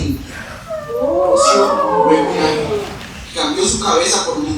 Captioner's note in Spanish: Maúllos